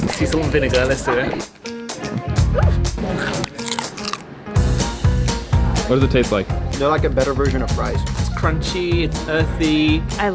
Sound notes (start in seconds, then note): 1.7 upbeat music; 3.2 bugs crunching